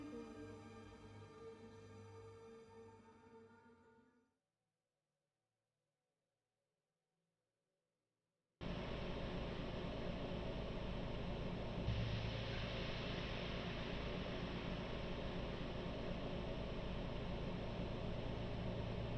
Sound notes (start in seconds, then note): 10.2 distortion fizzling